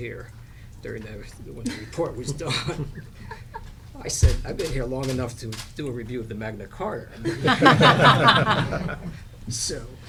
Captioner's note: laughter